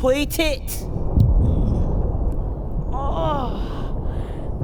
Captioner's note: low, distant thump